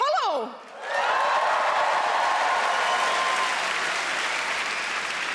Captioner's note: audience clapping and cheering